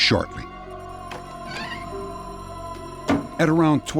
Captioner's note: door creaks